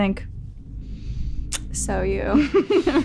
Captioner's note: laughs